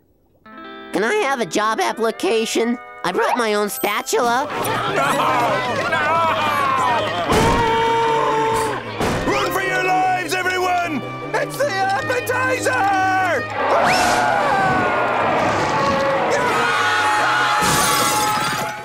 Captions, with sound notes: Can I have a job application? I brought my own spatula. [screaming] No! No! [screams] Run for your lives, everyone! It's the appetizer! [screaming] [roaring] [screaming]